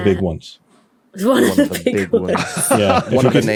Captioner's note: laughs